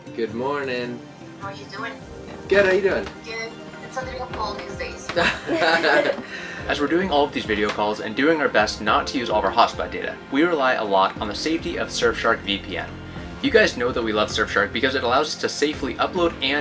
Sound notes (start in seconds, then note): 5.1 both laughing loudly